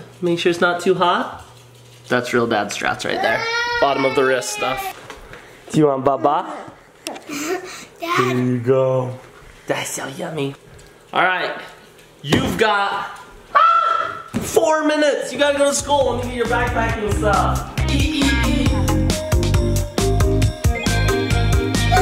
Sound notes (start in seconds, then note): 13.5 screams; 19.4 upbeat music